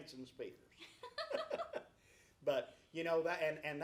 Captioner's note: laughs